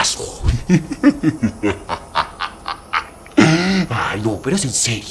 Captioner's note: laugh